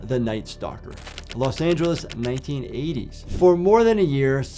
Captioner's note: typewriter clicks